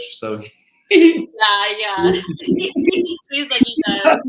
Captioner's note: laughing